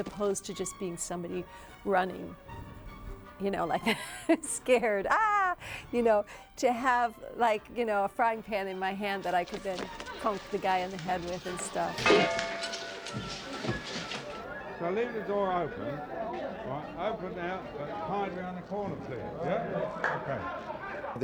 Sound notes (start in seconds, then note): 11.7 clanging